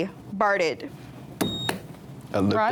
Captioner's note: buzzer beeps